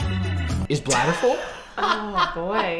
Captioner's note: funky music playing; laughing